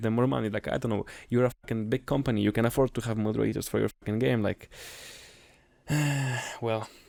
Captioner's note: sigh